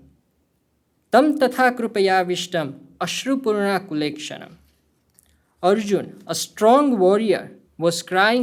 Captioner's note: speaking hindi